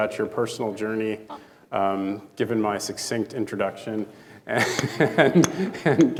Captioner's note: chuckling